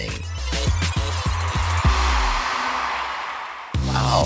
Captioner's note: crowd cheers